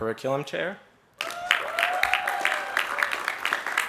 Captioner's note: applause